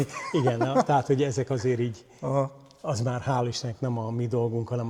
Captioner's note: laughter